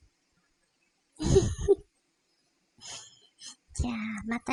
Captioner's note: laugh